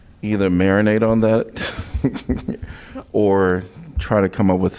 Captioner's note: laughter